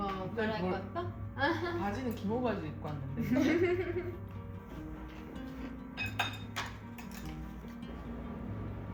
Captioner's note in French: haha